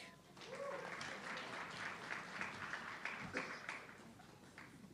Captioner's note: audience clapping